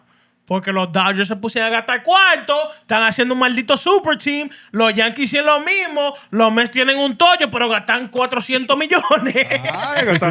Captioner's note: speaking Spanish